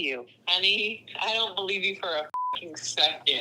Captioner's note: beep